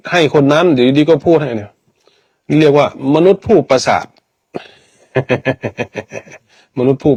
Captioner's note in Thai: เสียงหัวเราะ